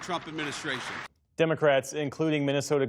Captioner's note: applause